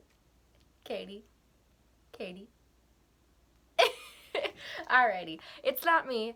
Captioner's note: laughs